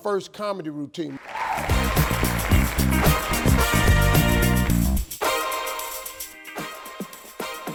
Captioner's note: audience cheers; upbeat funky music